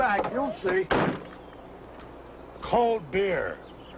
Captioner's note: door thuds close